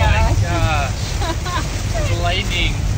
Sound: laughing

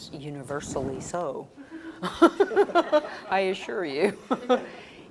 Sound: laugh

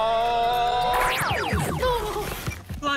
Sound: chuckles

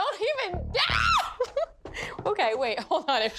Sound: screams

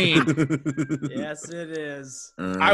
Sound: laugh

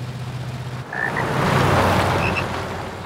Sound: croaking

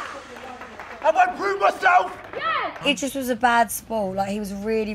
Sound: dramatic music; horn blasts

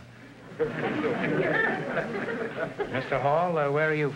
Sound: audience laughter

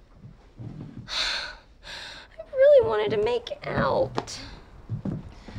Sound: sighs

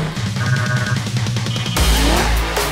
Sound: beeping

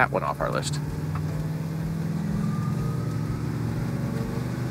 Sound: engine revving

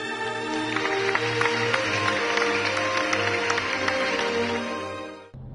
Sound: applause

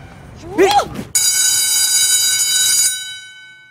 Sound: school Bell Rings

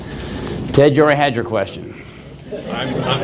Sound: laughter

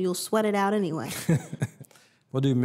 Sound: laughs

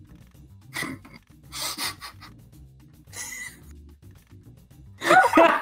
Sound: try to hold back their laughter

